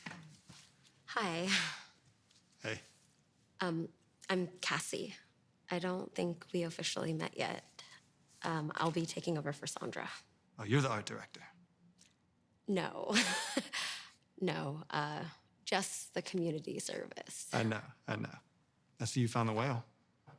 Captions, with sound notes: Hi. - Hey. - Um, I'm Cassie. I don't think we officially met yet. Um, I'll be taking over for Sandra. - Oh, you're the art director? - No. (laughing) No. Uh, just the community service. - I know, I know. I see you found the whale.